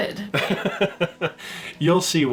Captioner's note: laughter